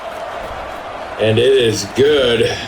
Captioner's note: crowd Noises